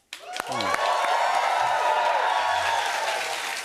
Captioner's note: cheers and applause